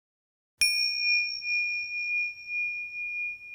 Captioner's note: bell dings